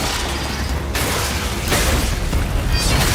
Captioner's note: clanging and visceral sounds of impact